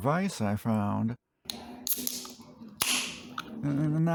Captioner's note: beer opening sound